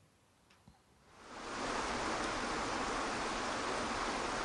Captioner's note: water pouring